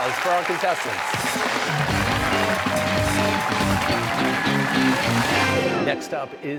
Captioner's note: cheers and applause